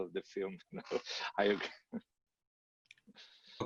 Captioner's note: laughs